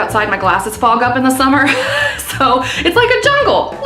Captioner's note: laughing